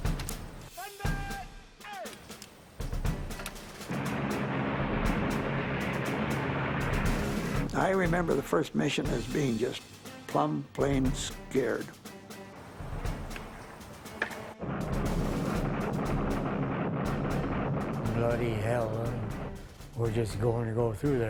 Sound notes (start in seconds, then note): 0.2 voiceover; 3.9 rumbling motors; 13.3 click